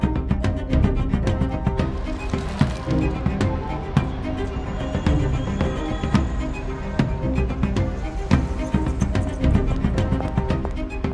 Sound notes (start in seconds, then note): 2.2 street ambience